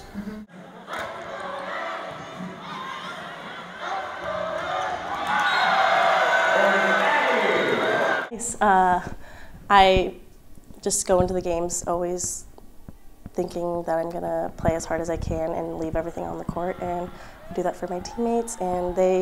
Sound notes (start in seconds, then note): 0.5 crowd cheer; 5.7 cheering